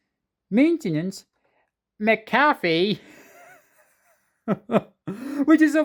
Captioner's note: chuckles